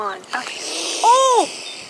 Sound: hissing

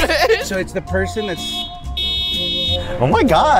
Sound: car honking

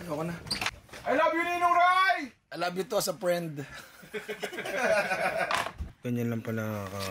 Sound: laughter

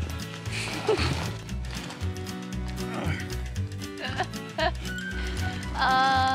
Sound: laughing

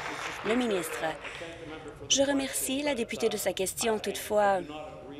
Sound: applause

